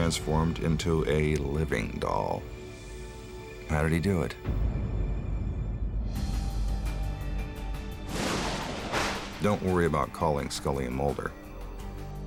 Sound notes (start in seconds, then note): 5.8 light dramatic music; 8.0 thunder cracks